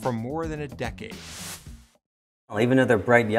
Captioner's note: air whooshes